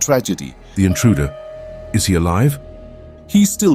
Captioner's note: quirky sounds